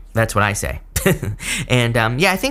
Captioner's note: chuckling